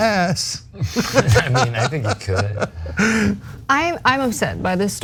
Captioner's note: laugh